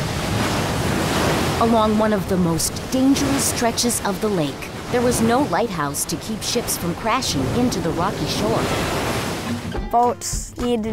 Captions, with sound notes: [ waves crash ] Along one of the most dangerous stretches of the lake, there was no lighthouse to keep ships from crashing into the rocky shore. [ waves crash ] [ child voice ] Boats needed to know